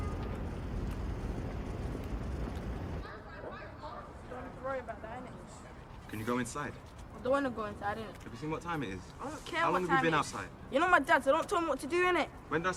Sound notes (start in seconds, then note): 3.0 all chattering